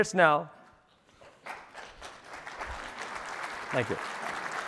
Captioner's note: applause